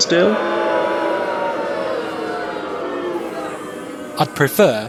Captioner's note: booing